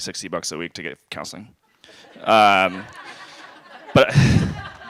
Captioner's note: laughter